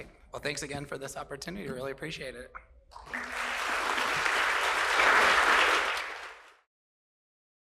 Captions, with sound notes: Well, thanks again for this opportunity. Really appreciate it. [APPLAUSE]